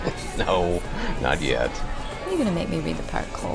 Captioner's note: chuckling